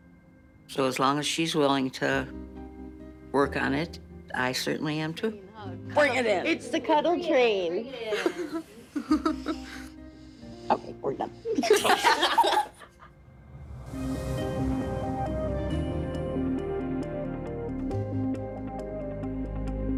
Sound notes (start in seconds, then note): 11.6 everyone laughing; 13.2 dramatic music